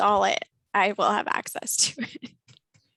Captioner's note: laughter